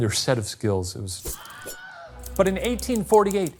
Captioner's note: blade ringing; typewriter clicking